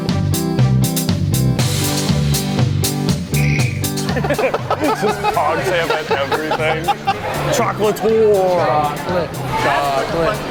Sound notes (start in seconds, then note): 4.0 laughs